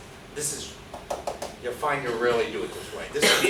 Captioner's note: knocks